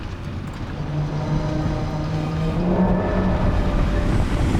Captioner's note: landing Wheels</i> <i> Rumbling